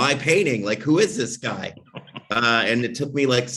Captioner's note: laughs